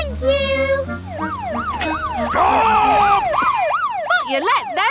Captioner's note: siren wailing